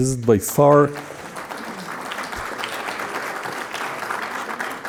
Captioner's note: audience applauding